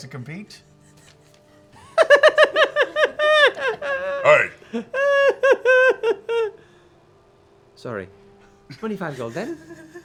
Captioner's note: prolonged high-pitched giggle